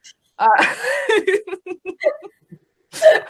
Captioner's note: laughing